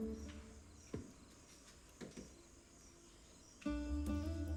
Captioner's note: footsteps